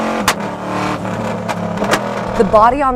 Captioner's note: engine Sound